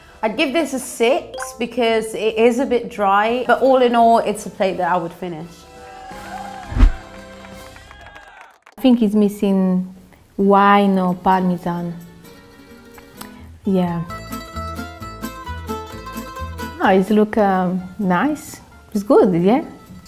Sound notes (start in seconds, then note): 6.9 crowd cheers; 7.0 crowd claps; 13.9 upbeat Italian music